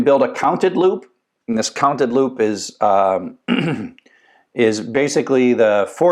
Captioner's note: cough